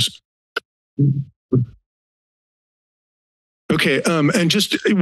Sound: silence

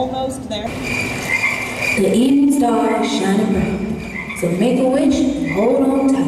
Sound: crickets chirping

